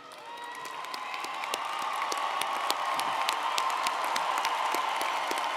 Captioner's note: audience cheering & applauding